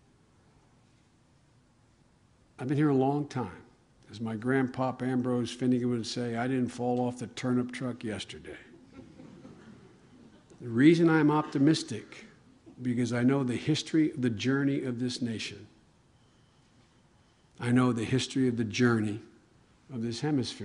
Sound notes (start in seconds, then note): 8.8 laughter